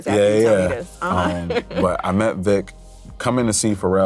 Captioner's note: laughs